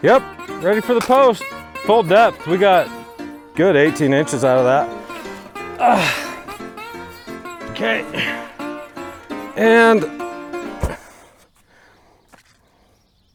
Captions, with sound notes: Yup. Ready for the post. Full depth, we got good 18 inches out of that. (grunts) Okay and... (post thumps)